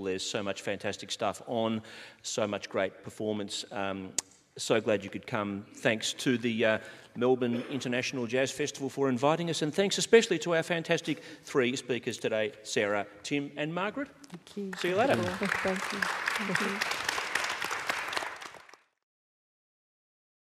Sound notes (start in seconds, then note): 14.7 audience applauding; 17.7 applause